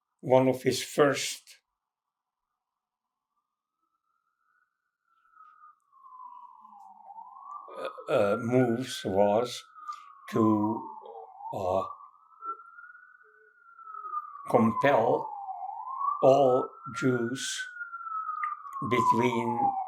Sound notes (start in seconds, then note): 1.8 pauses 6 seconds; 4.6 sirens